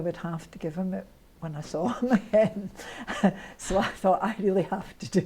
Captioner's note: laughs